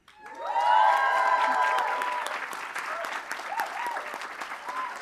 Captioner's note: applause